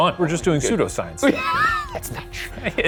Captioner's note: laughing